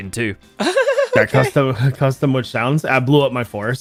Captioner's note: laughs